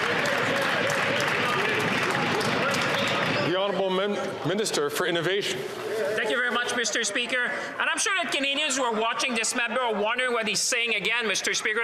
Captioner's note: some Applause